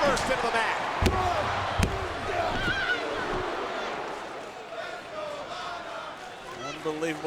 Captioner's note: hands thudding; crowd clamoring